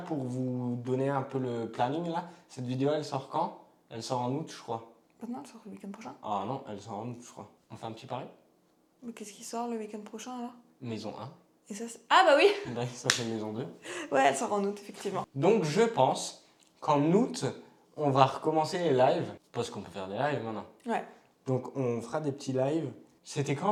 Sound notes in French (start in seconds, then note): 13.6 rires